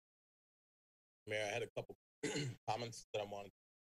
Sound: clears throat

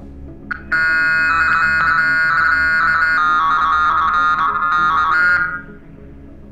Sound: alarm

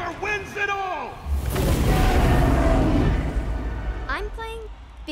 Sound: roars

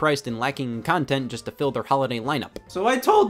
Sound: none

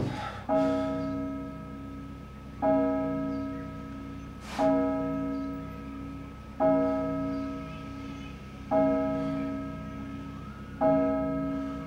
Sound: clock tolling from inside

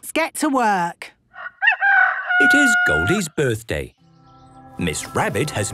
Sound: rooster crowing

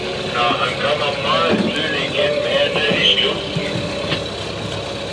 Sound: greenlandic on VHF

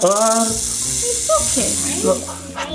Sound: snake rattling

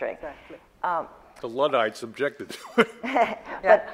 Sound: laughs

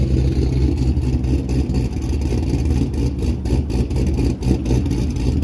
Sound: deep rumbling car engine/exhaust

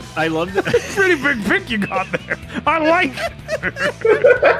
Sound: laughter

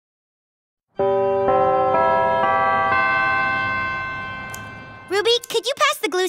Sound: bells chime

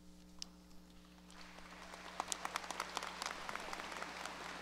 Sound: audience applause

